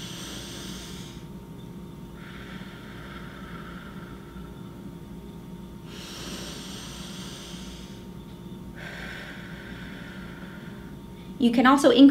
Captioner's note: breathing in and out